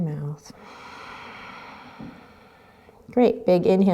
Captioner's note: exhaling